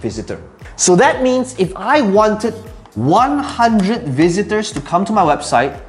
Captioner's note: tapping marker